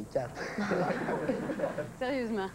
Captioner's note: Rires